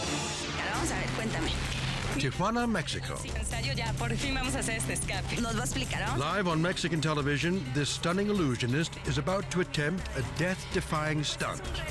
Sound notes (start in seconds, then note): 0.3 people speaking in foreign language; 3.3 speaking in foreign language